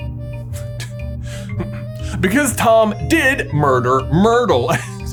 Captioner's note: clears throat